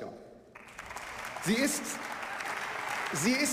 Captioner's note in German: Beifall